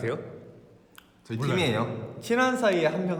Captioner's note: answers innocently